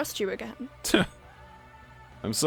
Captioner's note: scoffs